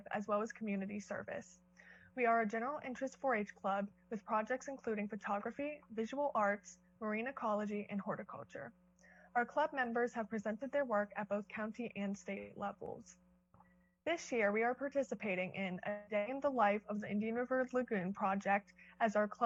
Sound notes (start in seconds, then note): none